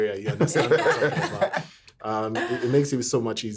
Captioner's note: everyone laughing